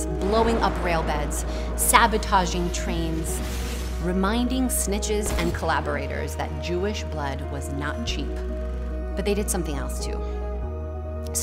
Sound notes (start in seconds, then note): 0.1 bomb blasting; 2.9 train car crashing